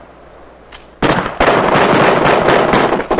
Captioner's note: bomb explodes; guns fire